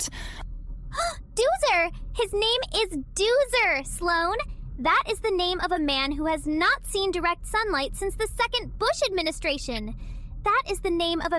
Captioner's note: gasp